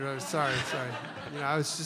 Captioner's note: laughter